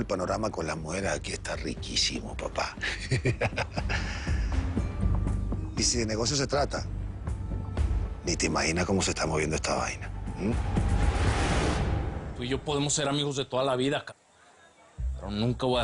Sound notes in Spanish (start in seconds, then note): 2.8 Risas